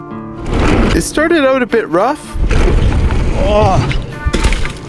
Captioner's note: groans